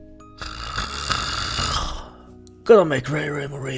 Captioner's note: snoring